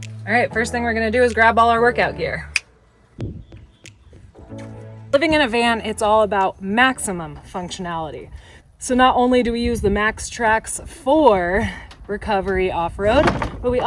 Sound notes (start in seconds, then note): 3.8 fingers click